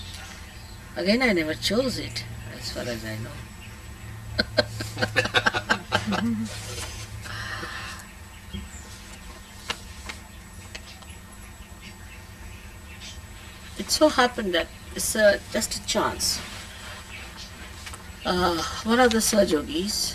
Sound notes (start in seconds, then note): 4.3 shree mataji laughs